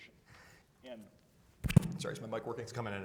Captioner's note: mic thuds